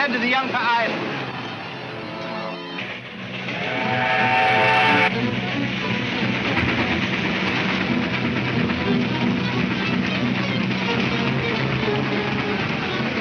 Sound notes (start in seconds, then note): 1.4 train whistle trumpets; 3.1 dramatic music